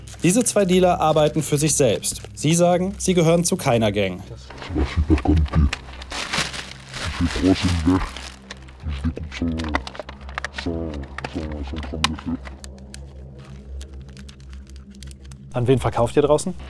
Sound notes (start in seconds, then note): 4.4 distorted, French; 7.3 dark music